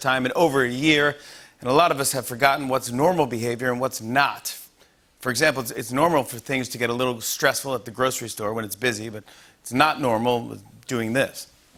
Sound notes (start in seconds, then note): none